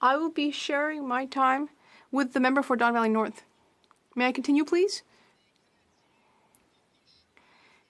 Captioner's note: speaking French